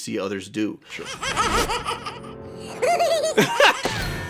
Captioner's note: evil kitty laugh